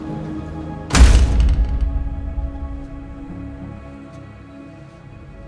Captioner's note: elevator door thuds